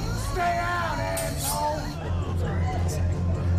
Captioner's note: scrapes; throbbing